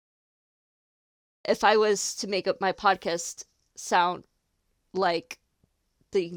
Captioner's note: none